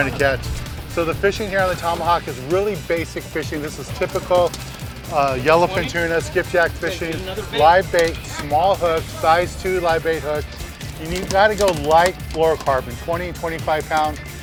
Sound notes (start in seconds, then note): 3.5 murmurs; 6.2 murmuring; 8.2 yelling